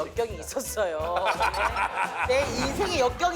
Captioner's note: phahah